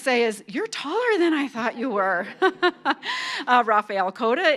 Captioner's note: laughs